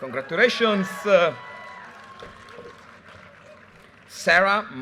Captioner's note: audience cheers and applause